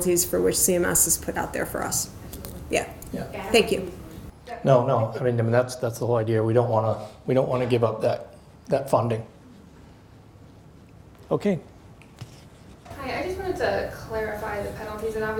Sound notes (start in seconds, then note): 4.6 murmurs